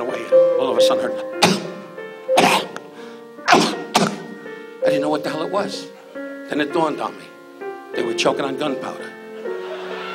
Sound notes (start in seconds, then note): 2.4 Don choking